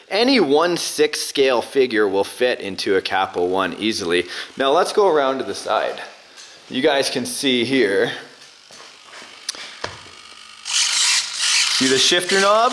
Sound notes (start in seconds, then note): 10.6 car whirring; 10.7 wheel and shifter screeching